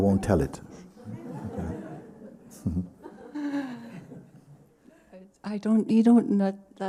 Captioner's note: laughter